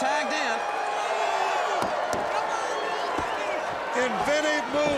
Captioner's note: crowd cheering